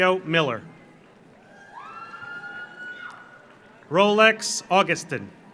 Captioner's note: audience cheers; audience applauds